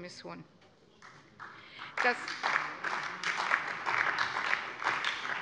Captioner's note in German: Allgemeiner Beifall